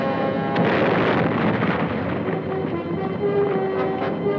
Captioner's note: grenade explodes; bold orchestral music